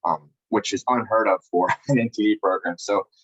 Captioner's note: laughs